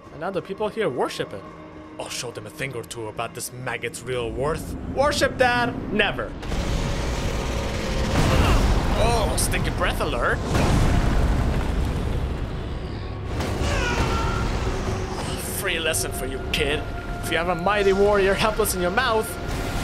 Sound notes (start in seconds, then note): 12.8 concussed groans